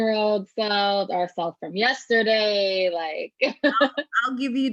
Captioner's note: laughs